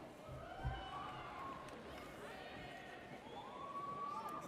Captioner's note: audience cheers